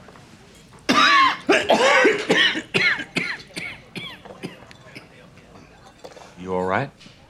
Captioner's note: coughing